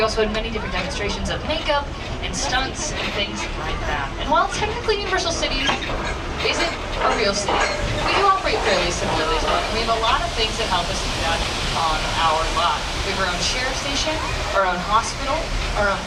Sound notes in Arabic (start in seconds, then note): none